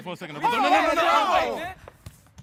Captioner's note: group chattering; footsteps tapping